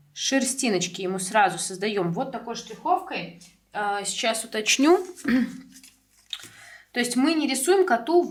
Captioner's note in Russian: откашливается